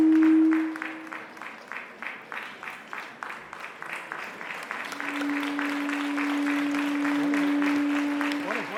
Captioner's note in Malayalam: കരഘോഷം